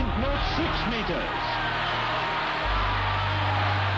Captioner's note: cheers and applause